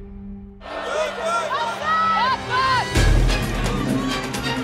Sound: yelling

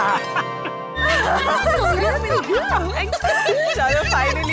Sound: laughs

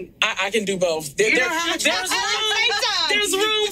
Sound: group laughs

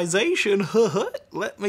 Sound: laughing

